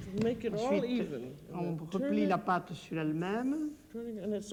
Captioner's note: speaking French